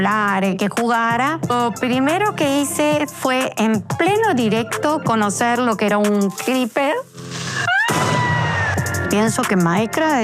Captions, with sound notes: and to talk and play. The first thing I did was to meet a Creeper. [Screams]